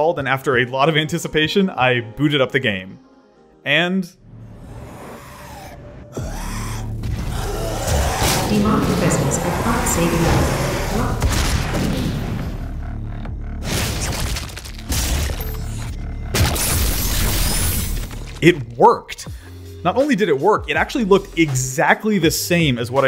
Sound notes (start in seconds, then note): 4.8 possessed roars; 7.5 rocket explodes; 11.2 shotgun firing; 13.6 Glory Kill noises